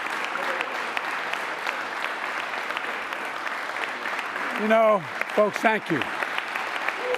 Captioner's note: applause; laughs